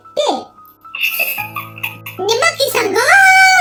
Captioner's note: laughs